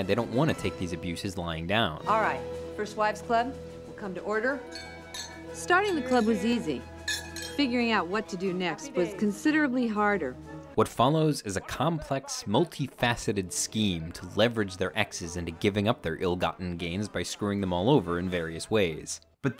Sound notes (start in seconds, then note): 4.6 glasses clink